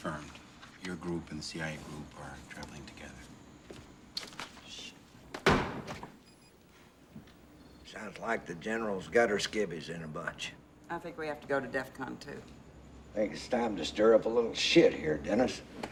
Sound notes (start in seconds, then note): 5.4 slams Desk